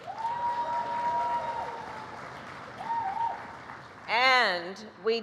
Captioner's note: applause